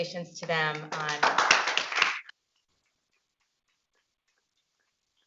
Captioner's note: audience clapping